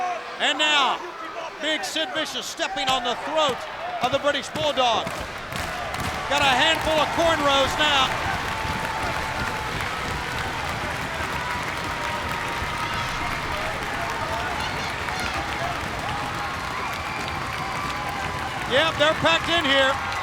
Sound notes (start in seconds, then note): 8.2 crowd clapping and stomping